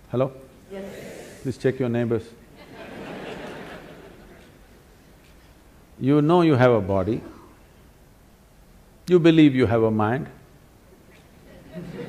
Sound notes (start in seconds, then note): 2.6 laughter; 2.6 笑聲; 11.5 laughter; 11.5 笑聲